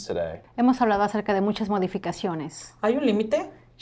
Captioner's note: translator speaking in Spanish; mother speaking in Spanish